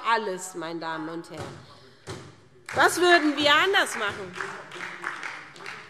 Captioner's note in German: Beifall SPD - Zurufe BÜNDNIS 90/DIE GRÜNEN